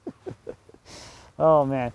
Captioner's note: laughing